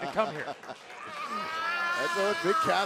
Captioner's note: laughter